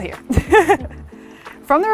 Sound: chuckles

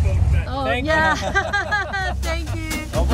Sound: laughing

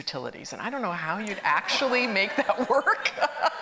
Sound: audience laughing; laughs

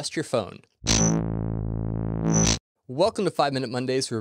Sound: buzzing

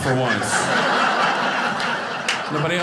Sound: audience laughing

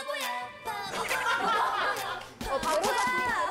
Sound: laughing

